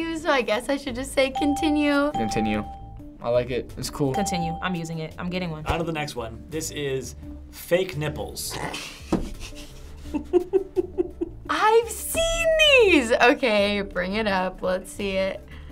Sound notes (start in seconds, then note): 8.4 snorting; 8.6 chuckling